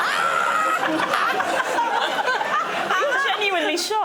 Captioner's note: laughter